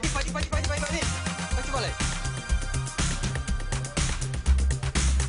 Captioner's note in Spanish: Habla en otro idioma